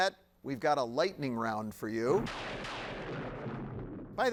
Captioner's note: lightning cracking